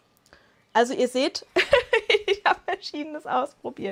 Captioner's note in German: Lachen